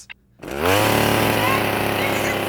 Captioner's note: chainsaw running